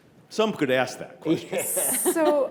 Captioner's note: panelists chuckle